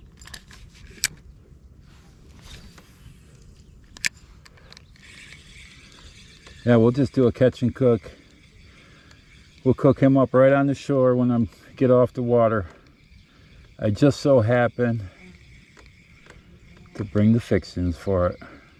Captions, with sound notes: (casting fishing line) (reeling in fishing line) Yeah, we'll just do a catch and cook. We'll cook him up right on the shore. when I get off the water. I just so happened to bring the fixings for it.